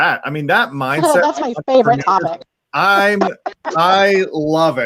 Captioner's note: laughs